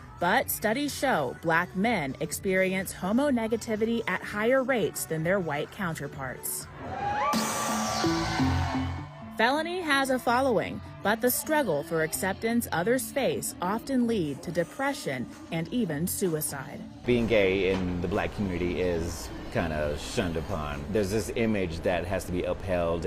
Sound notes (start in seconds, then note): 9.4 crowd